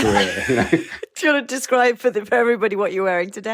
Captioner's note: laughs